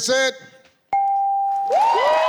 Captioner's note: computer beeps; audience applauding